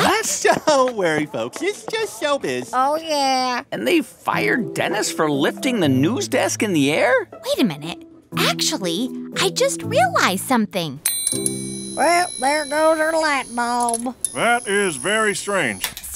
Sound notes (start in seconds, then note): 11.0 soundbite of ding, light bulb turning on; 13.1 soundbite of lightbulb breaking/turning off